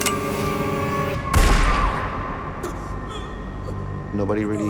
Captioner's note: gunshot